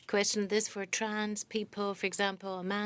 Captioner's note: speaking French